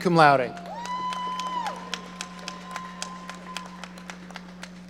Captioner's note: audience applauding